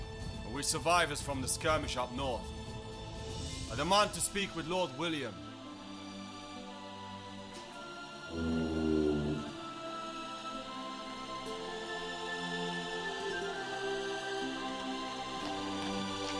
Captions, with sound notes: And we're survivors from the skirmish up North. I demand to speak with Lord William. (door hinges groaning)